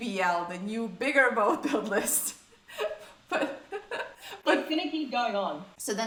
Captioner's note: laughs